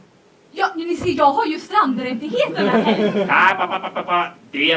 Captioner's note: laughter